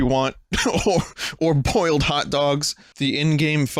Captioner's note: laughs